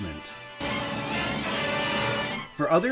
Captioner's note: electricity crackling